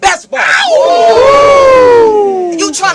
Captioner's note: crowd Reaction